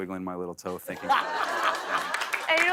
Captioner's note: laughter